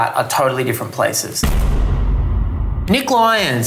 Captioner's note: bang